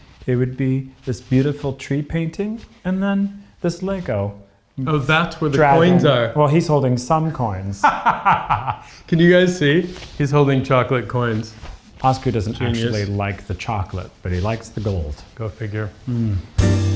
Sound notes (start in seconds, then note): 7.8 laughs